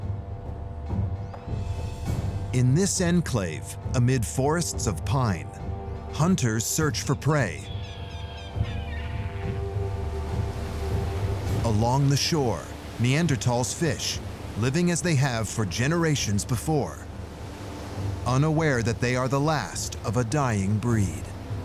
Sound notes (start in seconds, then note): 7.6 seagulls squawking